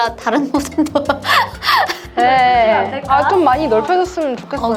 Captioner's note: laughter